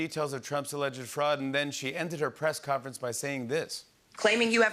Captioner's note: none